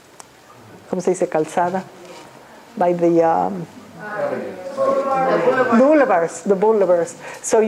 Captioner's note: speaking spanish